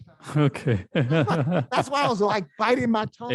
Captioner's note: laughs